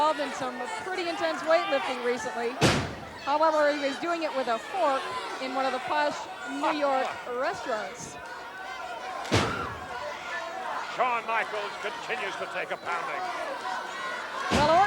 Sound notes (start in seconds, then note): 9.4 floor thudding